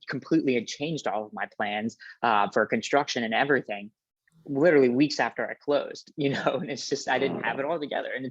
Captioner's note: laughs